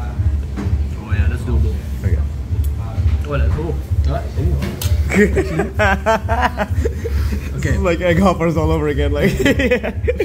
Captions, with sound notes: - Oh, yeah. That’s doable. Okay. - Wait. Oh! Oh! Oh! (roaring laughter) - Okay. This is like egg hoppers all over again like. Yeah.